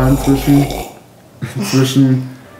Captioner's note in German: Lautes Schlürfen